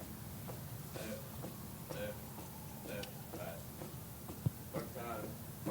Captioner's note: footsteps stomp